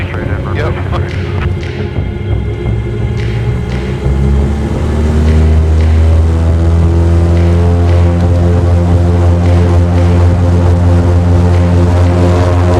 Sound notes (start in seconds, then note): 0.9 awkward chuckle; 4.0 engine extremely loud